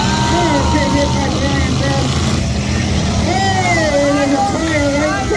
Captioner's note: crowd cheers